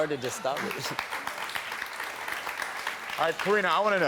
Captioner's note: audience claps